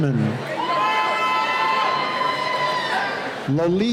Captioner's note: cheering